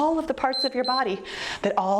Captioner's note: timer beeps